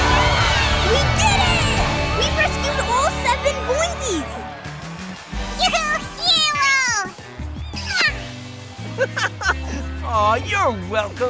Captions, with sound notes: We did it! We rescued all seven boingys! You hero! [kissing] [chuckles] Aw, you're welcome.